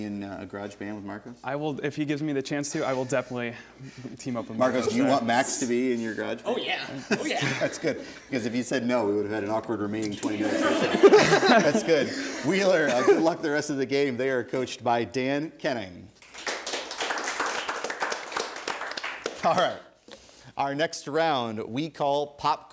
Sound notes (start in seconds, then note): 10.4 laughter; 16.2 applause